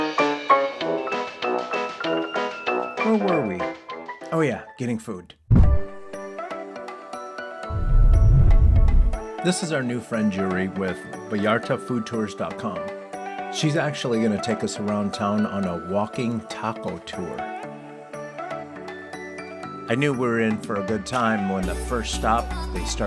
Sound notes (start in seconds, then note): 5.8 upbeat music; 7.7 whoosh sound effect